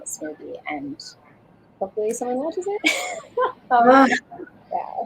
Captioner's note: laughs